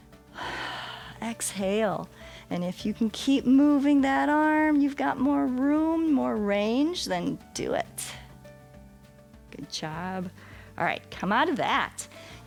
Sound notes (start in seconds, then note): 0.3 exhales